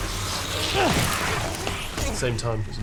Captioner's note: harry grunting